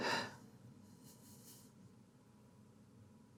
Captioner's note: shakily exhaling